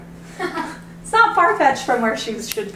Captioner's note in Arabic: تضحك